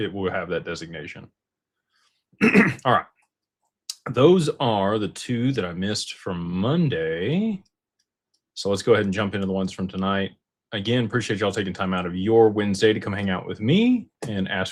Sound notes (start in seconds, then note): 2.4 clears throat